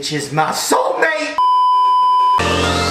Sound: beeeeeep

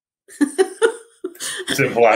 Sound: laughing

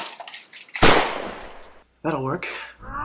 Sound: bang!

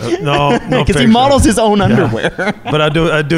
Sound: laughing

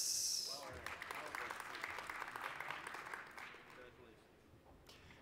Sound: applause

